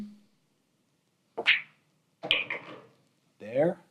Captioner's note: ball smacks and rattles